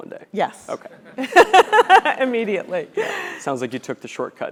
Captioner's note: laugh